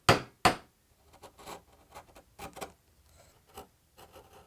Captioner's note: gentle hammering; wood scrapes